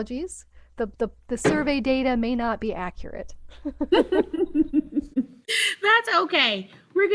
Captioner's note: chuckles